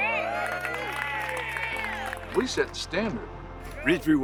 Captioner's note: crowd cheers